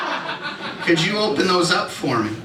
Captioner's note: laughter